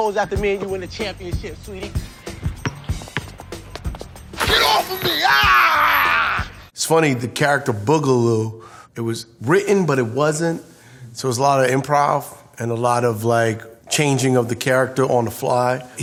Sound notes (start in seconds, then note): 2.4 ball bouncing; 4.1 chains rattling